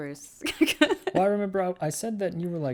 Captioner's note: laughs